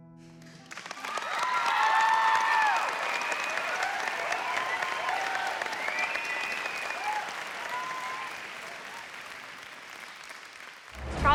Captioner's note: music ends, crowd cheering